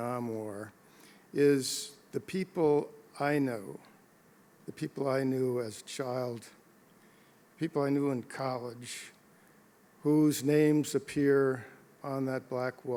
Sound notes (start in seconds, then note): none